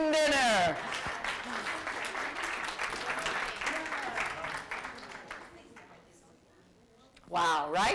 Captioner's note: applause